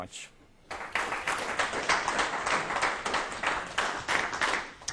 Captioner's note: applause